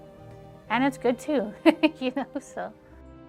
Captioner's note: laughing